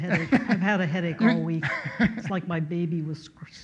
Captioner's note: laughs